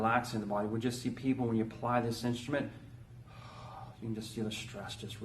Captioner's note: exhales